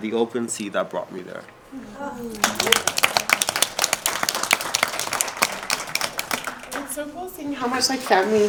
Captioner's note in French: Applaudissements